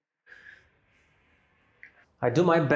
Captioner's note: silence